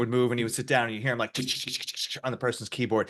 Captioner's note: imitates keyboard clacking